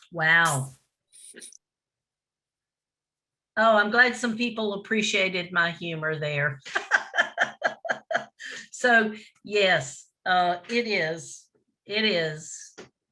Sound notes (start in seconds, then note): 6.8 laughing